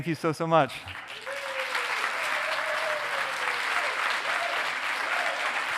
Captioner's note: audience applauding